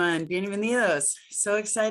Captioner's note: speaking Spanish